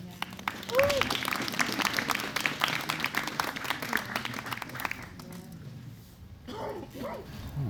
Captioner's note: applause